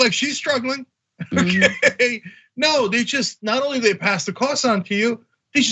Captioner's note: laugh